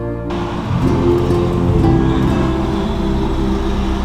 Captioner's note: traffic noise